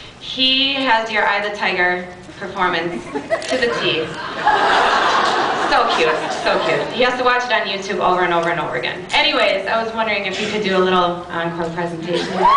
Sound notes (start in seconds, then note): 4.5 laughs